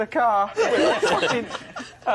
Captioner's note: all laughing